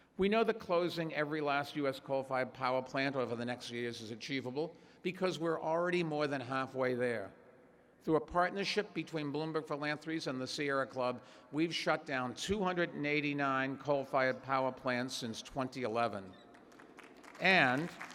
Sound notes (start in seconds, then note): 16.3 applause